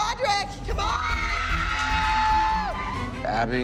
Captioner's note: all cheering